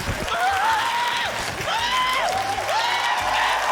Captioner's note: exclaims, shouts; cheering, applause